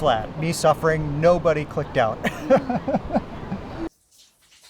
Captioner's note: laughs